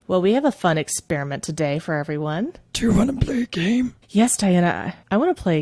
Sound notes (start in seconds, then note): 2.4 in Saw's voice